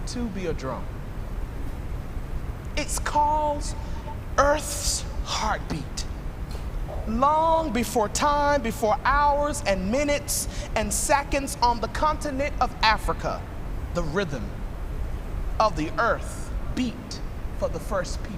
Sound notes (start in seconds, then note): none